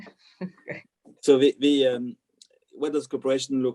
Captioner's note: laughs